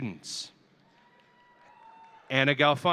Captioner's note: audience cheering